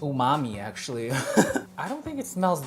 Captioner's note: laughs